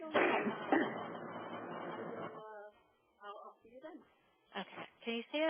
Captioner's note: audio Feedback